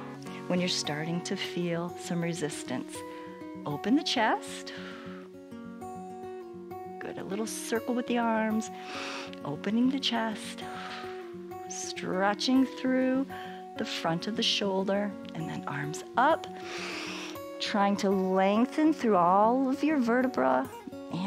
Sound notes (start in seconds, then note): 0.2 exhales; 8.7 exhales; 8.7 inhales; 16.5 inhales